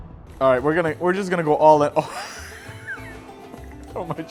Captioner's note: laughs